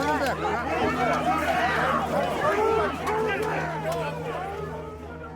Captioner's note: shouting continues